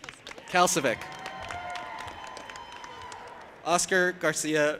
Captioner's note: audience applauding and cheering